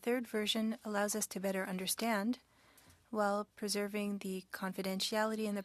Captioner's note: speaking French